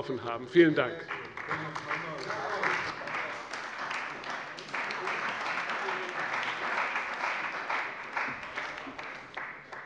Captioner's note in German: Beifall bei der CDU und dem BÜNDNIS 90/DIE GRÜNEN